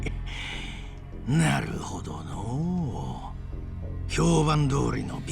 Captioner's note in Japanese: 鼻息